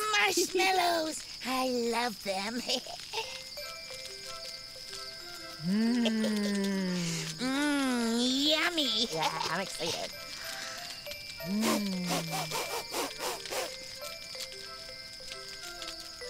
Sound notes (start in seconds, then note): 3.4 gentle music; 11.4 Tobee sniffing